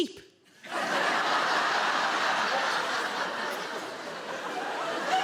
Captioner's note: audience laughing